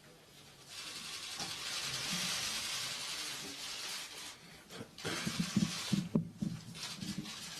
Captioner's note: camera clicks